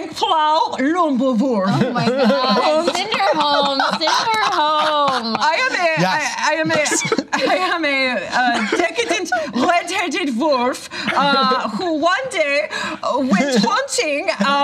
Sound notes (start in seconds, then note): 4.3 laughter; 5.7 imitates German accent